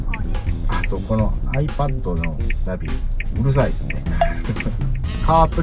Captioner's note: laugh